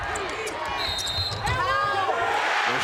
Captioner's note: crowd cheers; whistle blows